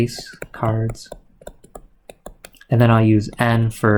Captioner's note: keyboard clicking